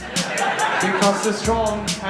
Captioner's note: laughter